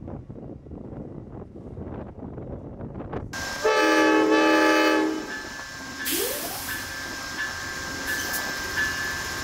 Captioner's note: horn honking